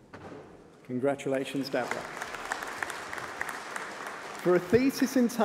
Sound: applause

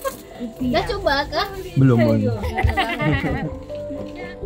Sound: laugh

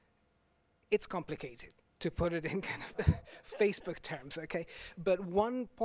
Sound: chuckles

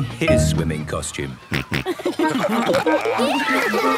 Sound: snorting, giggling

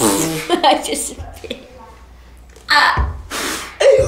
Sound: laughs

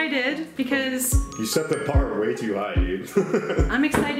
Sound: laughs

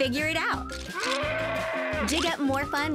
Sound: roar

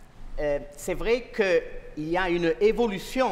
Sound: speaking french

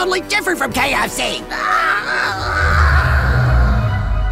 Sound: KRAMPUS screams

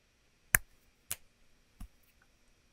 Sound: claps and snaps

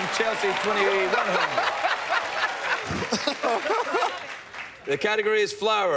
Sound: laughing

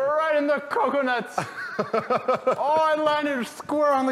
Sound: laughs

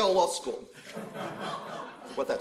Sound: laughter

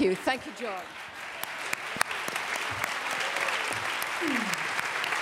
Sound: applause

